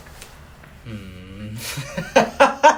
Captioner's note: hysterical laughter